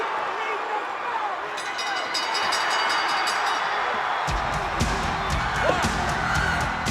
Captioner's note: bell dings